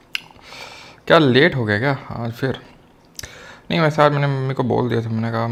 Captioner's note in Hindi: अचानक ज़ोर से सांस लेने की आवाज़; गहरी सांस लेने की आवाज़; नाक से की जाने वाली आवाज़